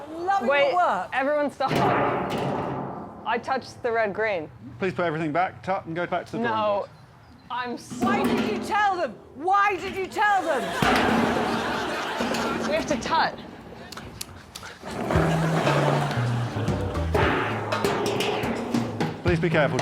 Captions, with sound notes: -Oh, loving your work. -Wait. Everyone stop. -I touched the red green. -Please put everything back. -Tut and go back to the drawing board. -No. -I'm so -Why did you tell them. Why did you tell them. We have to tut. [tutting] [laughter]